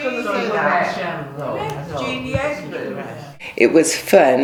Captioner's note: multiple voices